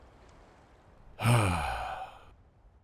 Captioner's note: sighs